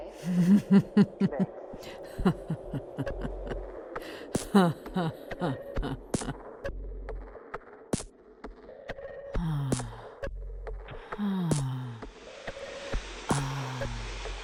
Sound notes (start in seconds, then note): 1.7 hostess laughing; 9.4 hostess sighs